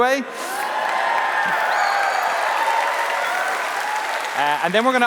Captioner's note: cheering